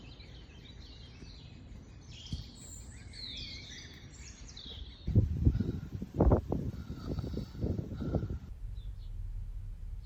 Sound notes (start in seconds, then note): 6.5 breath; 8.7 bird song